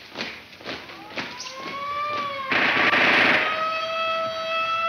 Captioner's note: siren wailing